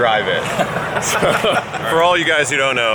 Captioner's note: laughter